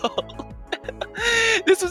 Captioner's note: B I G inhale